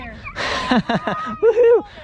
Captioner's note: laughing